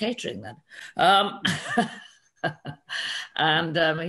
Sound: laughs

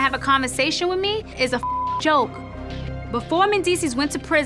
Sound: beep

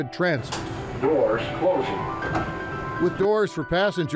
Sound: Electronic voice

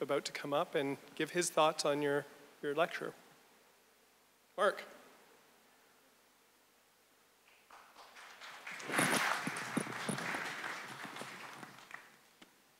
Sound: audience applause

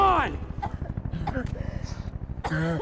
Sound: coughing; helicopter hovering

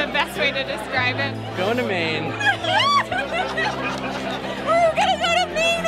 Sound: screams

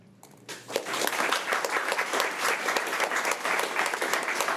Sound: crowd clapping

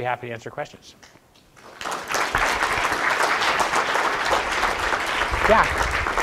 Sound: applause

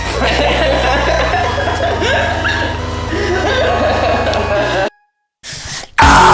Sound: both laughing

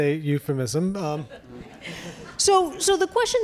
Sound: audience laughs

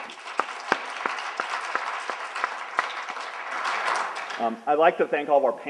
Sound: applauding

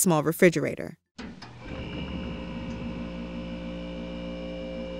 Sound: compressor humming

